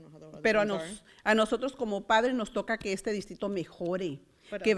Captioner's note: foreign language